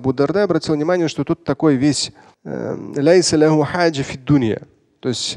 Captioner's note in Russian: говорит на арабском